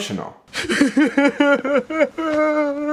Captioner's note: crying